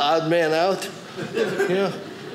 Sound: audience laughing

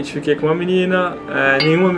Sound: ding!

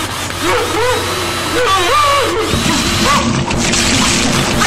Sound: gurgling screams

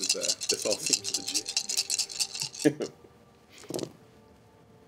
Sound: dice shaking

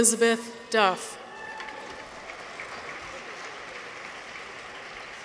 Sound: audience applauds

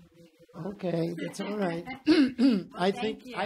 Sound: laughing

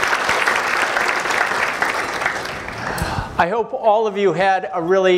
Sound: applause

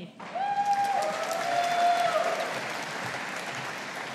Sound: audience applauding

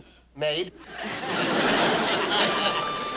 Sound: chuckles

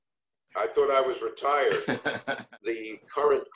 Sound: laughs

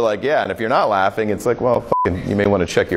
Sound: beep

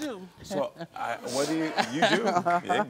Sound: audience laugh

